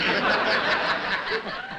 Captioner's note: laughter